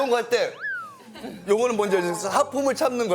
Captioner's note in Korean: 흐음